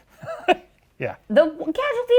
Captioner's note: laughs